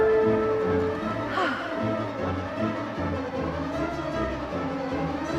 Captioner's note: dramatic music; Aunt Edna exhales